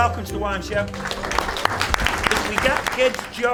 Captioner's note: applause